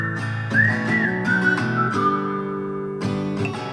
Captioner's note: whistles